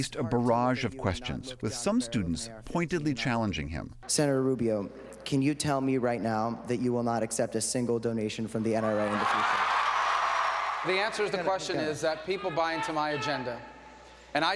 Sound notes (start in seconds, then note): 8.8 cheering and applause